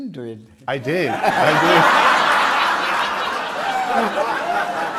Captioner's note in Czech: smích